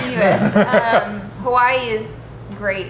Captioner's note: laughing